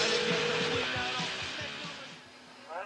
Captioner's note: phone ringing